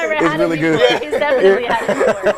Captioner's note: laughter